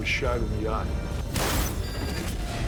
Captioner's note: gun shot